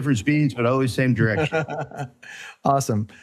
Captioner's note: laughing